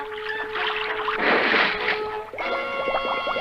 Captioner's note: splash!